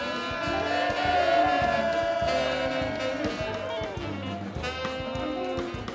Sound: applause

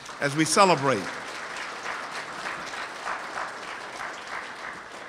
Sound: audience applauds

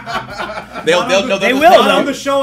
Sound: laugh

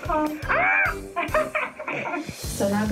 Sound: laughing

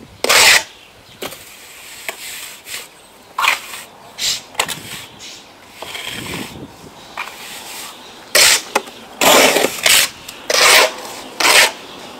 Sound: tools scratching the cement rendering on the concrete wall

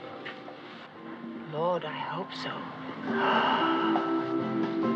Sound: gasps

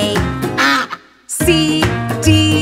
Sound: duck quacks

